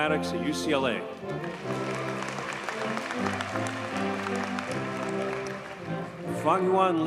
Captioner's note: audience cheers and applauds